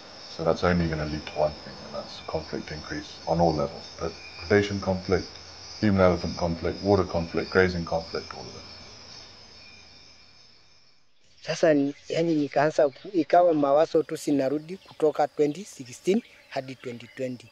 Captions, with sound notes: So that's only gonna lead to one thing, and that's conflict increase on all levels, put predation conflict, human-elephant conflict, water conflict, grazing conflict, all of it. [crickets chirping] As I look back at everything that happened from 2016 to 2020,